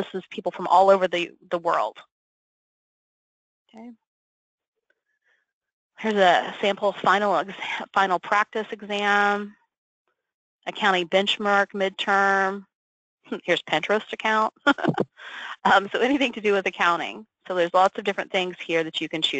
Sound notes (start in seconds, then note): 14.6 laughs